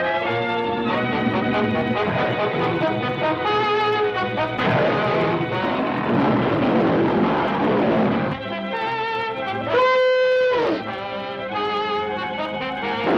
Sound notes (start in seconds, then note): 4.5 lions roaring; 9.6 elephant trumpets